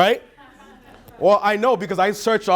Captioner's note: chattering and laughing